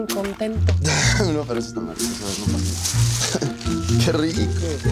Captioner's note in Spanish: Ríe